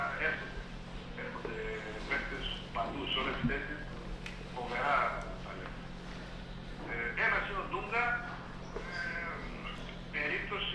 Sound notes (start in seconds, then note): 4.1 radio chatter in Greek